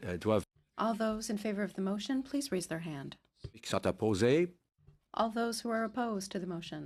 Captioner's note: speaking French